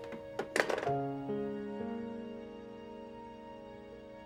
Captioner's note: phone clunks